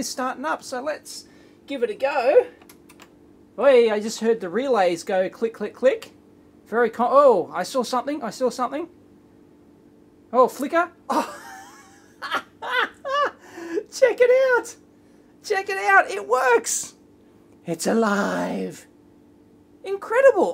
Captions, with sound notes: is starting up. So let's give it a go. Hey, I just heard the relays go click click click. Very co-- whoa! I saw something. I saw something! Oh flicker. [ laughs ] Check it out! It works! It's alive! Incredible.